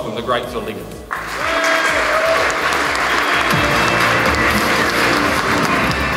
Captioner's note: people cheering and clapping